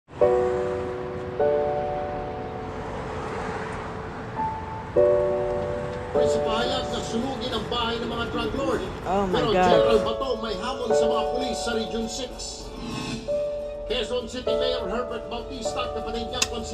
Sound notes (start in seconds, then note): 0.8 gentle piano music; 6.2 television blaring